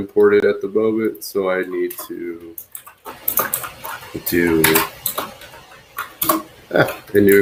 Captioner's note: keyboard clacks